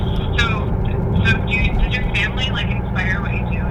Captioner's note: voiceover